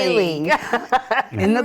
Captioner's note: laughing